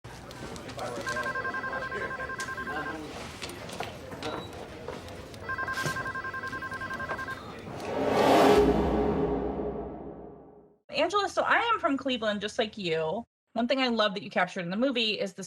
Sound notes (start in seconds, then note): 0.9 telephone ringing; 7.6 light whoosh